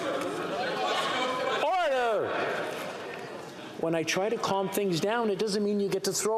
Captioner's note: yelling